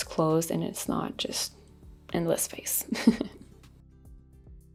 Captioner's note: chuckles; upbeat music